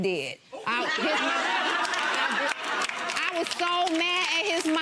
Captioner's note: audience laughing